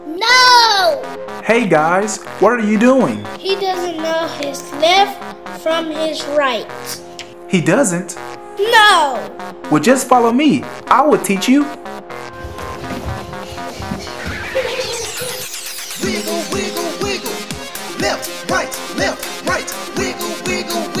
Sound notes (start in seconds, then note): 12.3 feet shuffling; 17.3 upbeat music and singing